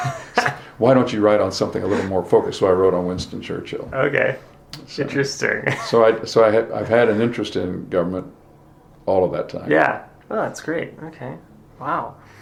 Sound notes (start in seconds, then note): 2.6 both chuckle